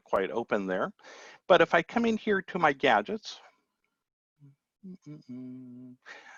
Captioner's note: humming